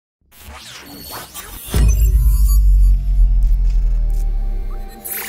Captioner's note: metallic sound effects